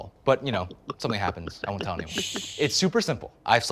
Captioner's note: gulping sounds